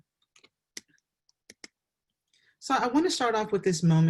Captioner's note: mouse clicking